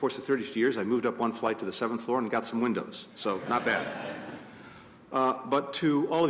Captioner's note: laughter